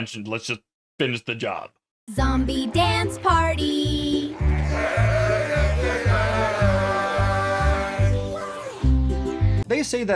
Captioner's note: distorted animal noises